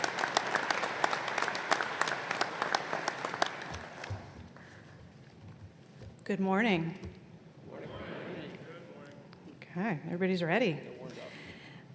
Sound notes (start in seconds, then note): 0.0 applause